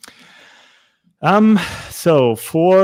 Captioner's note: sighing